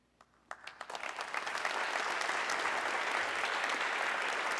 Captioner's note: audience clapping